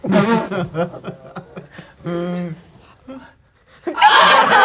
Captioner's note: laughing; crowd laughing